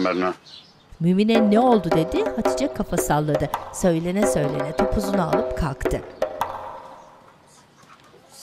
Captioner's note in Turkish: Kuş cıvıltısı sesleri